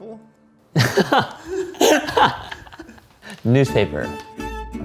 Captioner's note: laughs